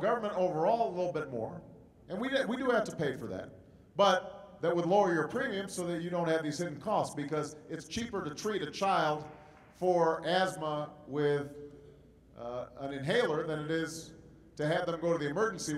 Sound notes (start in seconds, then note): 7.7 applause